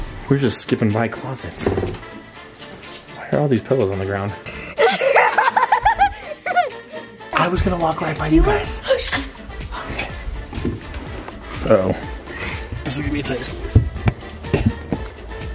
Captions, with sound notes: we're just skipping by closets. Why are all these pillows on the ground? (laughing) I was gonna walk right by you guys. Uh oh, this is gonna be a tight squeeze.